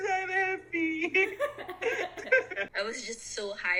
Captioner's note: laughing out loud